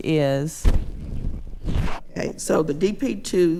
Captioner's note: hand causing microphone feedback